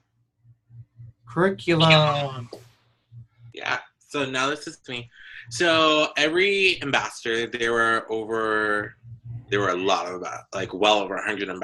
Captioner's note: exclaims